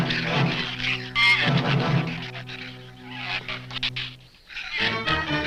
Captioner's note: shrews chatter